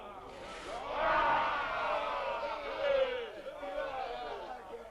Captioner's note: chieftains shouting